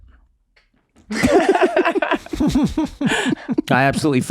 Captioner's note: everyone laughing